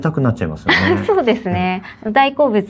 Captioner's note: laughs